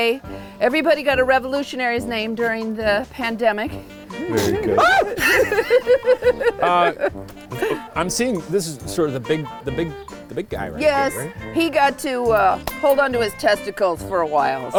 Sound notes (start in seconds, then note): 4.2 shrieks; 4.2 laughs